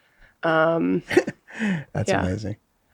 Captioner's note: laughing